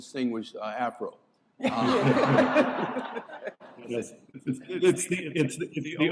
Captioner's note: laughter